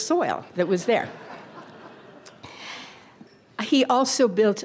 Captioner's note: audience laughter